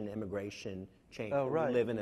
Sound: none

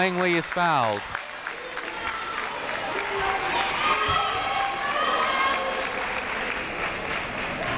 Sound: people shouting and applauding in the crowd

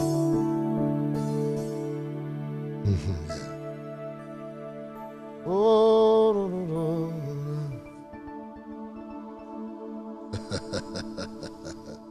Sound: chuckling

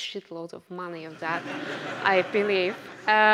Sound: audience laughs

